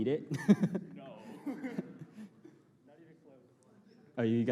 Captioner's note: laughter